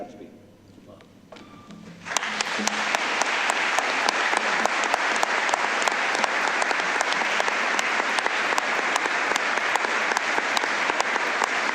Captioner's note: applause